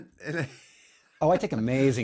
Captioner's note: blank Audio